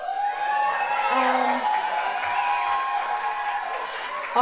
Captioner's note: audience cheers